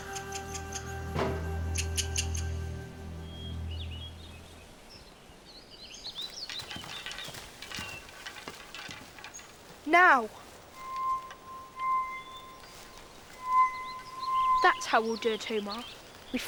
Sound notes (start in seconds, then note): 0.2 mouse squeaking; 3.9 birds chirping; 10.7 chiming